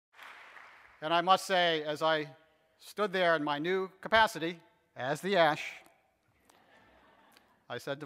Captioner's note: audience laughter